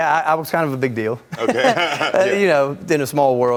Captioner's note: laughing